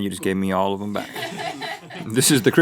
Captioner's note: crew laughs